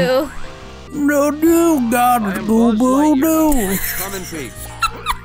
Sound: laughing

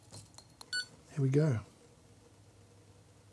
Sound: button beeps

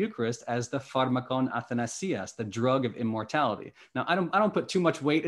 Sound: speaking greek

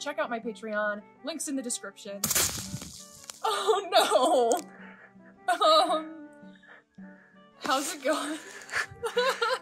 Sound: chunk of snow falls

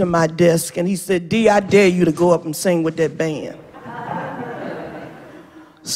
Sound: laughter

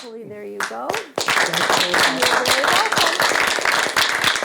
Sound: all clap

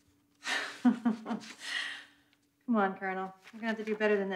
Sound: laughs

